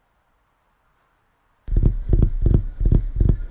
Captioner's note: strums fingers